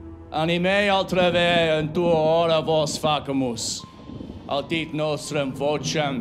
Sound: Marcus speaks in foreign language

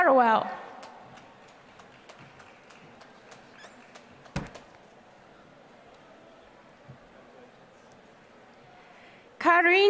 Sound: applause

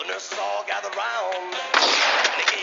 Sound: gun shot

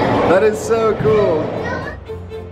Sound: kids yelling; orchestral music

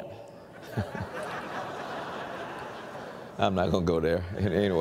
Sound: laughing

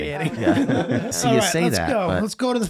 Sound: laughing

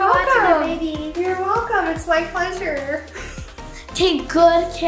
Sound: laughs

